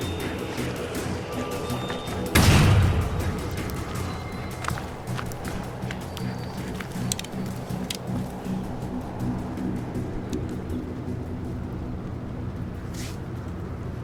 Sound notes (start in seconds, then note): 2.3 door slams; 5.7 dramatic music